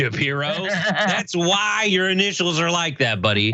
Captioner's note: laugh